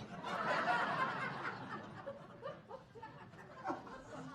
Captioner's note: audience laughing